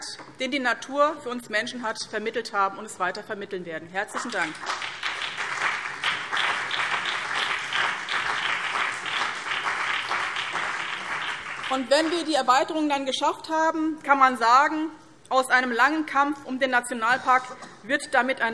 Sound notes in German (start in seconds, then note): 4.2 Beifall BÜNDNIS 90/DIE GRÜNEN und CDU